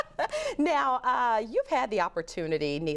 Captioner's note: laughter